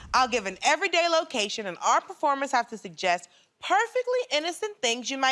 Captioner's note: none